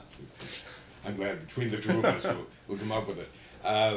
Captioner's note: laughter